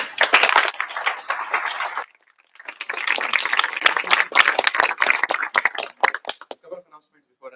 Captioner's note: applause